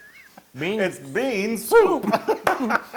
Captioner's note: laugh; laugh